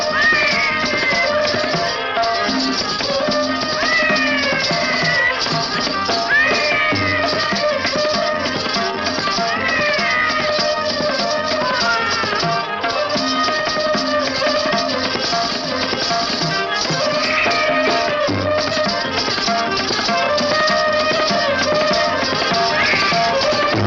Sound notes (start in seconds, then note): 0.1 baby crying; 9.4 baby crying